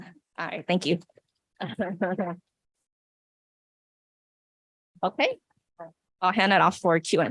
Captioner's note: laughs